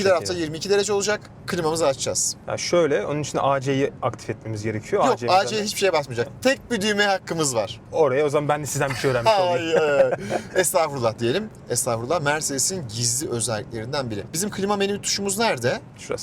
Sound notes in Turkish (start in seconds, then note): 8.8 kahkaha